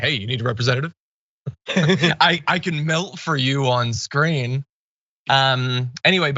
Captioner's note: laugh